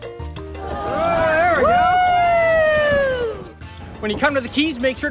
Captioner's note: cheering